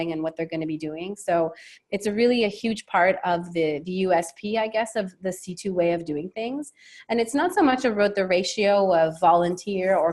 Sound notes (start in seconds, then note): none